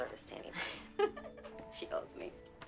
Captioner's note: Candace laughs